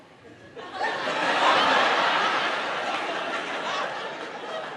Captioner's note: audience laughing